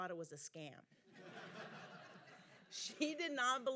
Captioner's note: audience laughing